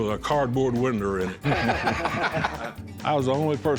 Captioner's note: laughter